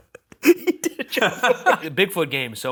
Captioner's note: laughs